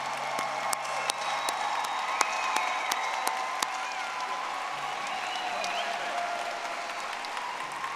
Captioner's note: audience applauding